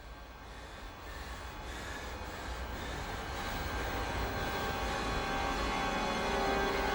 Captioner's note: breathing heavily; ominous music